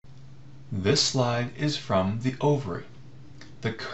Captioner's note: voiceover